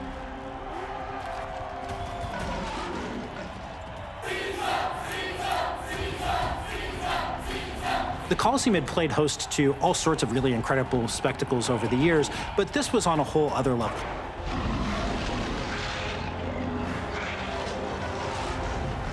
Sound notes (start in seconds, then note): 3.9 crowd chanting; 14.0 roaring